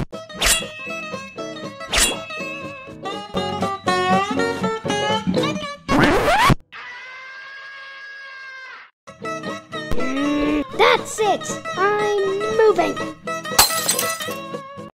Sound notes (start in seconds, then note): 1.8 shing!!; 6.7 tom and jerry scream